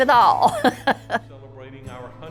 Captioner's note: chuckles